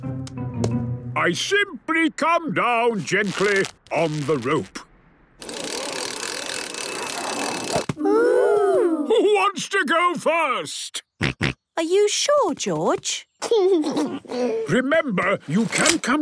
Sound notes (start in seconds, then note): 10.3 George snorts; 12.9 giggles